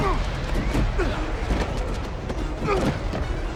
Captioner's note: rushing air; groan